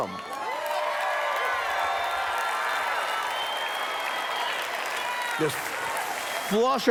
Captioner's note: cheers